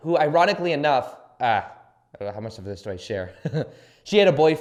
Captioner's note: laughs